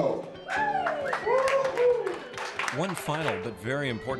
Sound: crowd cheering and applauding

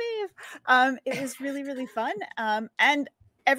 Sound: DM chuckles

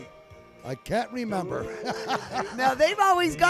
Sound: laughs heartily

